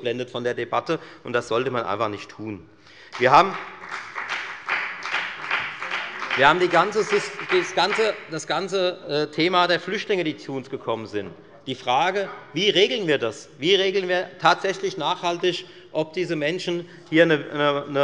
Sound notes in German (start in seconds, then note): 3.0 Beifall bei der FDP